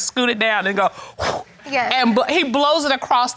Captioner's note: blows